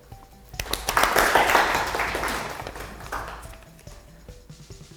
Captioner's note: clapping